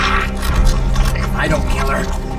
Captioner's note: flesh squelching